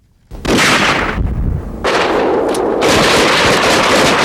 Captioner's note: guns firing